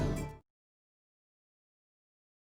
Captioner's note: silence